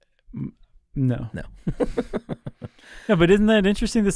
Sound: chuckling

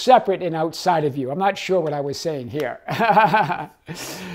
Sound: laughing

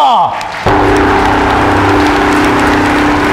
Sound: all clapping

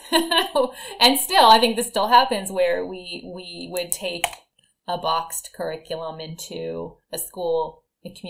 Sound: chuckle

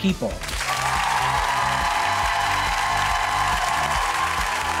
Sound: audience cheering

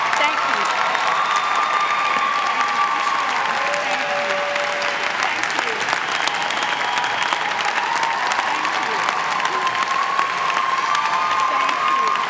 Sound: cheers and clapping

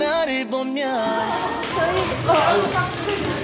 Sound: the model receives a big round of applause within entrance

